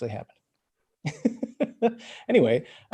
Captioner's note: laughs